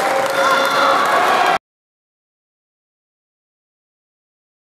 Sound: applause hands

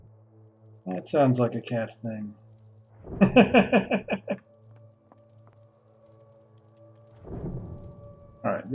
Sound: laughs

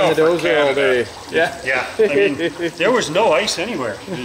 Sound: laughing

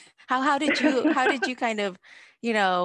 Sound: both laughing

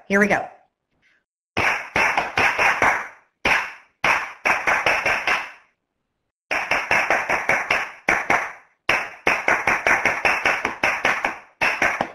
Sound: clapping

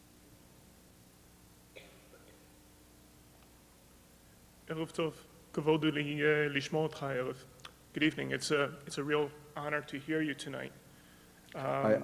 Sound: foreign words

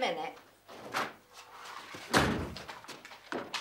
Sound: door slams

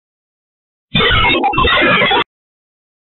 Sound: chilling sound

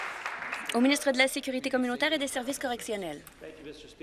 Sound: applause

